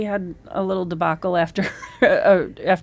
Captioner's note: laughs